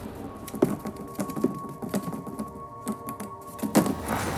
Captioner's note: rustling